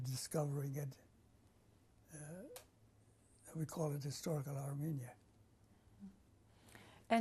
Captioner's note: pauses for 3 seconds